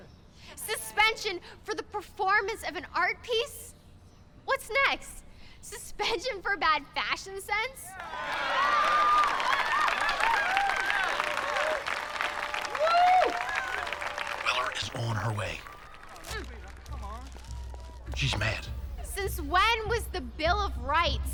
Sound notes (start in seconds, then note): 8.0 audience cheering; 8.0 audience applauding